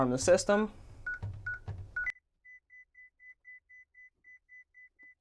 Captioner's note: beeping